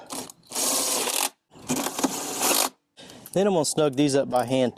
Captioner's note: power tool ratcheting